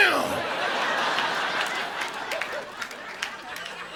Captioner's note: audience laughing